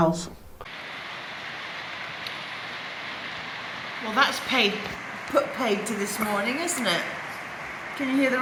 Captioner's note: rain